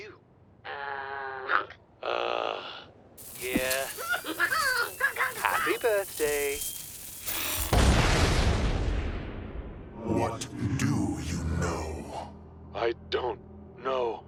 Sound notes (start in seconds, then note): 3.8 Junior screaming; 7.6 explosion